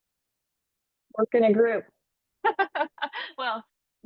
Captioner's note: laughs